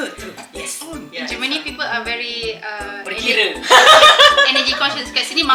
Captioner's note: laugh